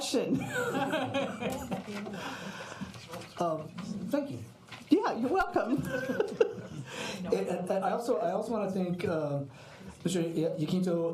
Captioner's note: laughter; laughing